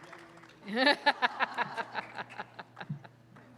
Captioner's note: laughter